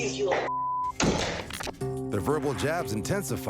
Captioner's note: door slamming